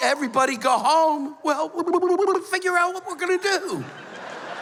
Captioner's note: blubbers; laughter